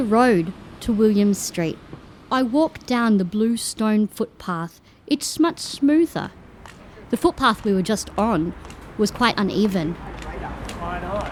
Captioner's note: sound of footsteps and cane tapping